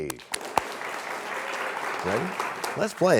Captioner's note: applause